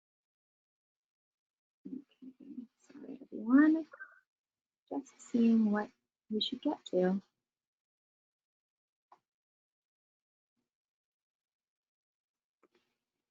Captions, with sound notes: Okay, sorry everyone. Just seeing what we should get to. (silence)